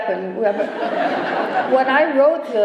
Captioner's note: laughter